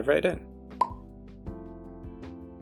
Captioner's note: pop